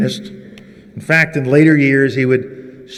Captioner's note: none